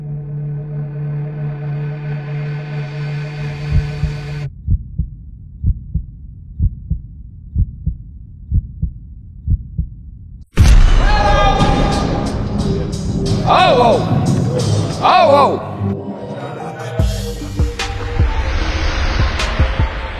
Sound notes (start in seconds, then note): 0.0 tense music; 5.0 heart beating; 10.5 dunk sound; 10.8 cheers